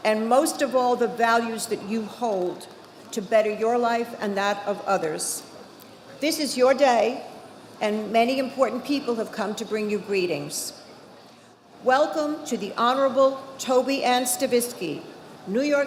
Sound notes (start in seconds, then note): none